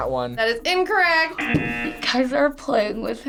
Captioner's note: buzzer rings